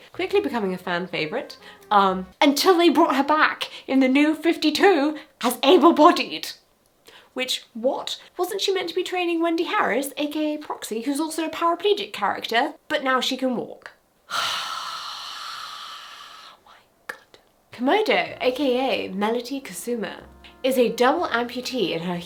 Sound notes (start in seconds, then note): 14.3 sighs